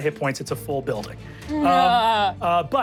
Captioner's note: groans